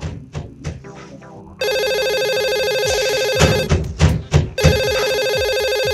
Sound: door knocking; phone ringing

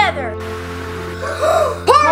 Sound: TV static; everyone gasps

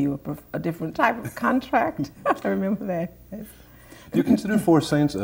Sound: laughter

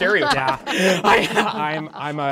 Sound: participants applauding

